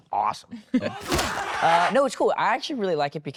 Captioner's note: screaming